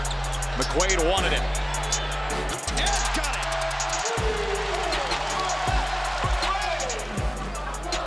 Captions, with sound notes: Mcquaid wanted it. Yes, got it! (audience cheering)